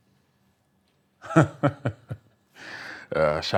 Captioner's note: DARE laughs